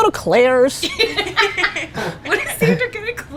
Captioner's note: laughter